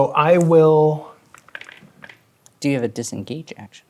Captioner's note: dice clattering